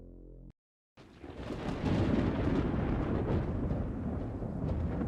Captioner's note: thunder and lightening